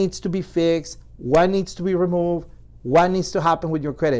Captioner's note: hands clapping; hands clapping